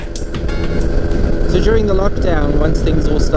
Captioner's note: plane engine rumbling